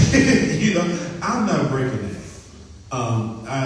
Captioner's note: laughs